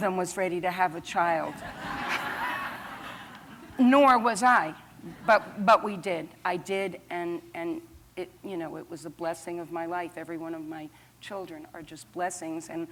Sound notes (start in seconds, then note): 1.5 laughter